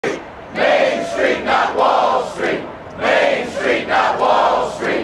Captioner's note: chanting